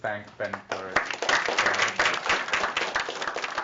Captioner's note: applause